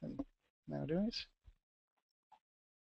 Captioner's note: pause